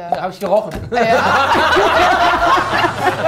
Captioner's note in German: Lachen, Tusch